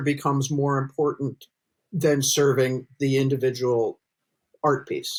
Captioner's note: none